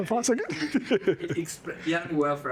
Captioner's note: laughs